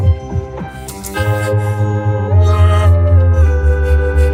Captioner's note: groans, screams through teeth